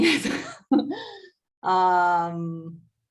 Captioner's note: laughs